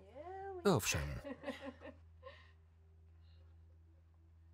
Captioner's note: Lucy laughs